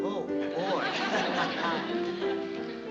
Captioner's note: laughter